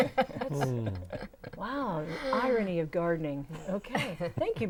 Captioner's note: laughing